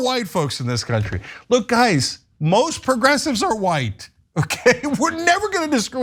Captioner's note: laugh; laugh